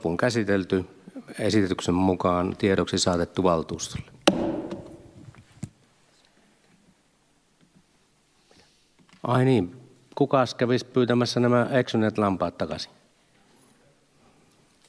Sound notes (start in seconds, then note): 4.2 Nuijan kopautus